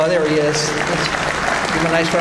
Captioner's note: audience applauds